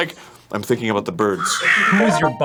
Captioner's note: birds cawing.wav